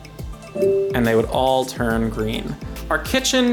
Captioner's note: chiming